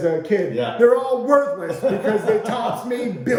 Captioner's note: laughing